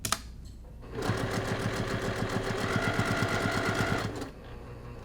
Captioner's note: machine whirring